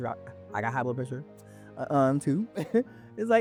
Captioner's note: laughs